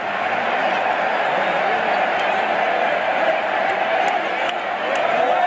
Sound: cheering

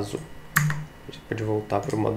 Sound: heavy click

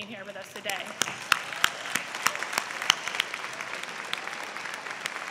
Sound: applause

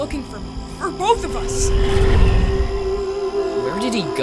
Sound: whooshing

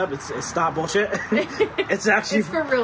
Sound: both laughs

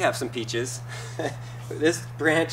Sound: laughs

